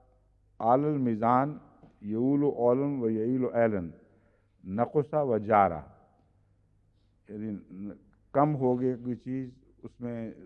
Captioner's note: Arabic